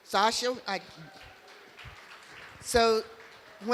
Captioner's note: applause